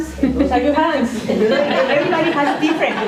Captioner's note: laughter